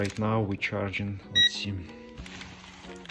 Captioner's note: ammeter pings